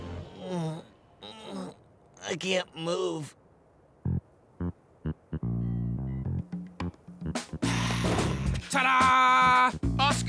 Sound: groaning

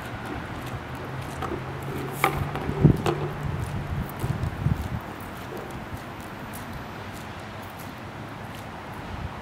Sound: footsteps

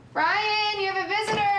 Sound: door shuts

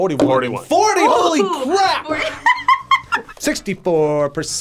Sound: laughs

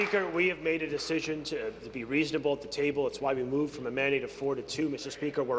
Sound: applause

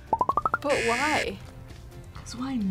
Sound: buzzer

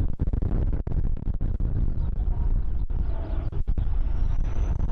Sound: wind gusting; plane engine roaring

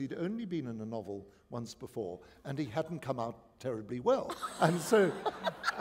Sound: laughter

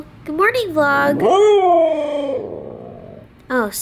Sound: makes a long vocalization

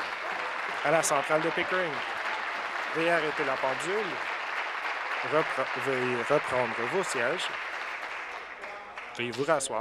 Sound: applause

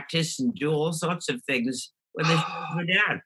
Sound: murmurs

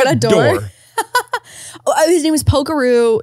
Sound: laughs

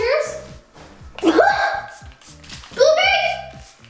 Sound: coughs

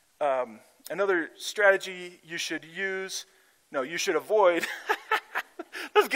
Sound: laughs

